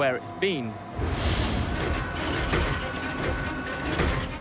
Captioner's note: robotic whirring